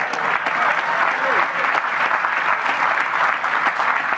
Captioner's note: applause